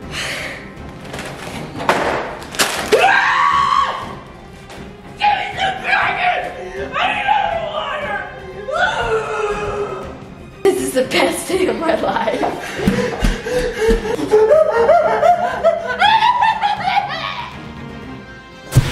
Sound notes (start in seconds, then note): 0.2 exhales loudly; 1.0 drops bags; 2.9 screams; 8.6 screaming; 11.8 laughing; 12.4 breathing loudly; 16.9 screaming; 18.7 flames igniting